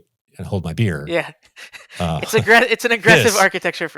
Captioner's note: laughs